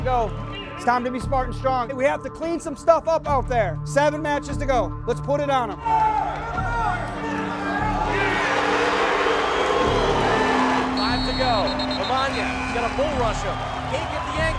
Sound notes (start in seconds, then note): 6.1 crowd cheering; 11.0 commentator chatting